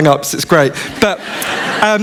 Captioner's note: laughter